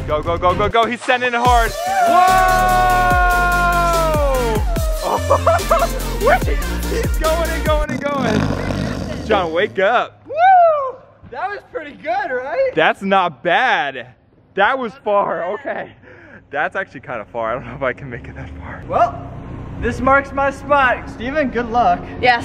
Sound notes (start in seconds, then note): 1.5 cheering; 7.8 snoring